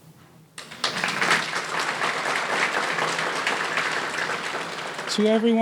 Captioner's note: audience applauding